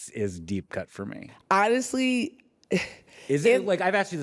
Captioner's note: chuckles softly